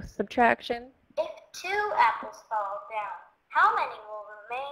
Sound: voiceover

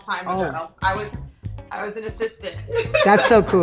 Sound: laughs

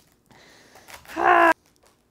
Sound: exertion noises

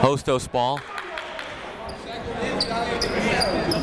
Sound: chatter

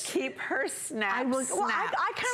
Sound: laughter

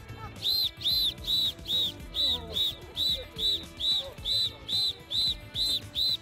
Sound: whistle

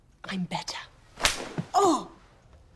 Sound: hand slaps

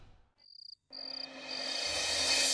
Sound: crickets chirping

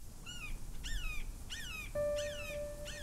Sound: bird caws; majestic music

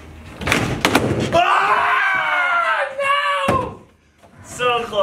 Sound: yelling

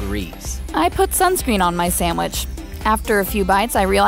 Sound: voiceover

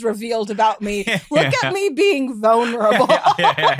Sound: laughs

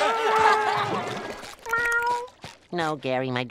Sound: laughing; meowing

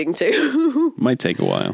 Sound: laughs

